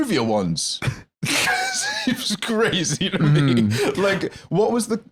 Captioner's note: laughing